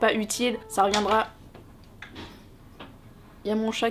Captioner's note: door opens